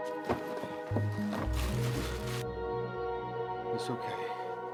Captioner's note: bag crinkling